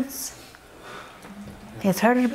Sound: audience murmur yes

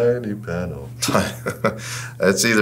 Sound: laughs

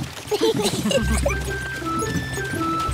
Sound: all giggle

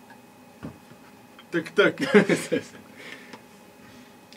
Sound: laugh

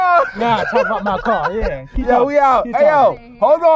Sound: laughing

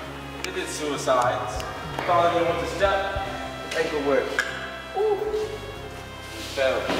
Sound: clicks Toungue

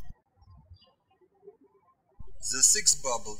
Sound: birds chirping

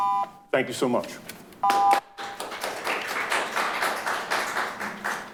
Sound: audience applauding

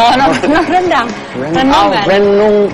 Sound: laughs

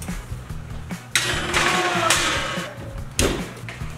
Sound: metal clanging; door slamming

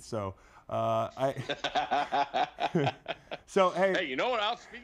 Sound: laughs

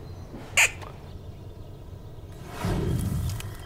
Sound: animal squeaking; twigs snapping

